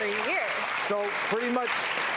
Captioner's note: applause